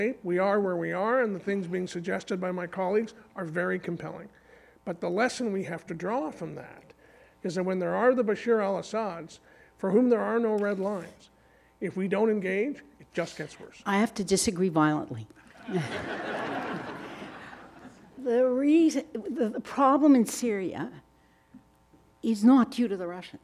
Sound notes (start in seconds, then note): 15.5 audience laughing